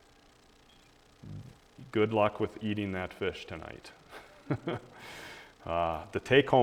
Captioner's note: laughs